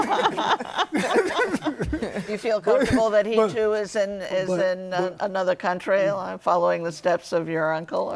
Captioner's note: laughing